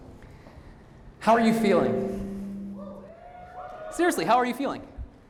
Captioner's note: audience cheering